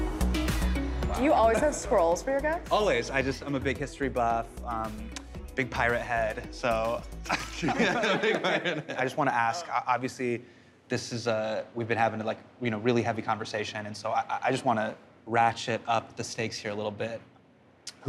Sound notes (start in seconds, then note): 7.2 laughter